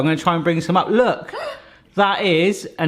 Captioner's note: gasping